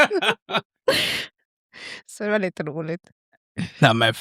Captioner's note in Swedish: skratt